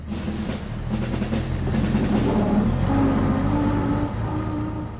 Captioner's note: engine of car driving